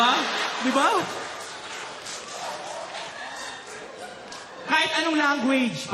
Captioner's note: laughter